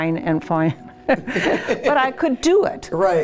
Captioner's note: laughs